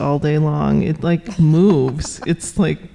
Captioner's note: laughing